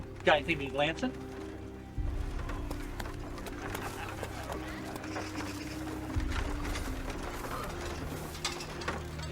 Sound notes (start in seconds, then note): 2.4 soft melodic music; 2.4 townsfolk bustling